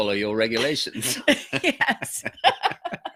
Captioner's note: laughs; laughing